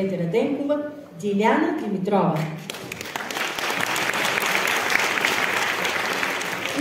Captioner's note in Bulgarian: аплодисменти